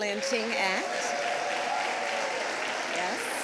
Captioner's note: applause